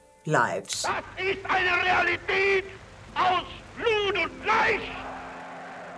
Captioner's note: speaking in German